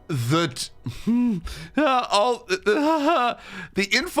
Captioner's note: laughing excitedly